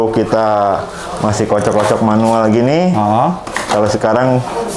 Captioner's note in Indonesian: suara tabung dikocok